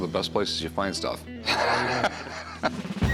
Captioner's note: laughs